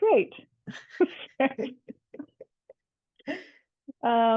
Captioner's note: laughs